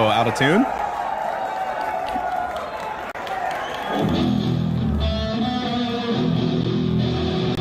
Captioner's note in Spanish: aplausos